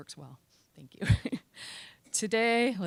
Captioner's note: chuckling